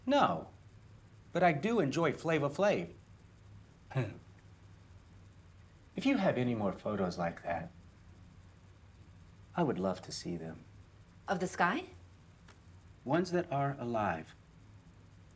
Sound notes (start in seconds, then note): 3.9 chuckles